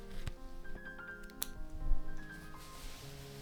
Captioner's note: snip